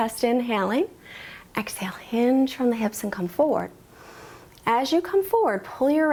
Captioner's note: inhales